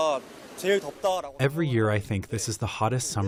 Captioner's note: through translator